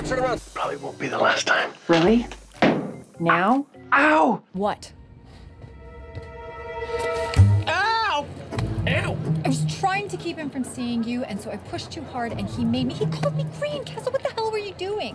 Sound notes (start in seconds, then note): 2.6 loud stomp